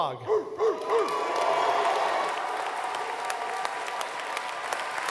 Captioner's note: barking